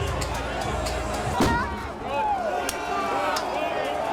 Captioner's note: crowd yelling